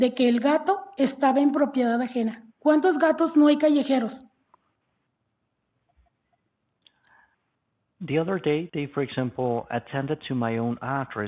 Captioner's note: speaking non-english language